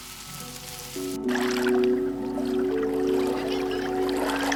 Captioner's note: light music continues; water trickling